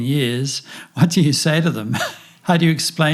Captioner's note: laughs